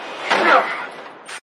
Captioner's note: grurunts